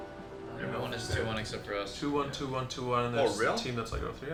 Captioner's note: teammates chattering